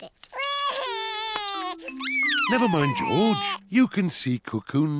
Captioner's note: sobs